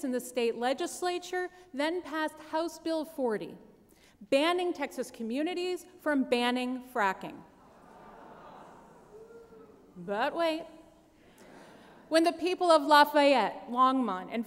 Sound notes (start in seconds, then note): 9.0 groaning